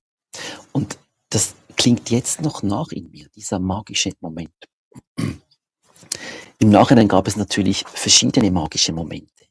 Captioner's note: clears throat